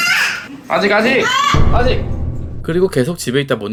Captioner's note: mom screaming